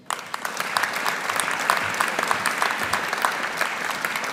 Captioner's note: audience applauding